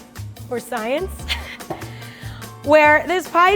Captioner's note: laughs